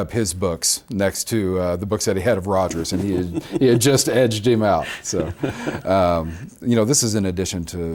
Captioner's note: both laugh